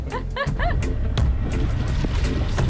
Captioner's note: laughing; upbeat music